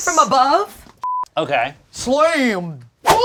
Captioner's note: beep